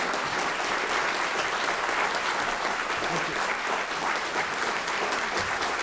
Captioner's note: audience clapping